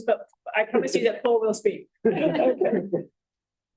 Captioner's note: laughter